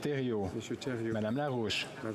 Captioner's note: speaking French